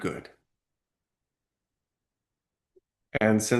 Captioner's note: pause